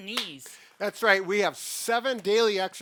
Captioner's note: hands slap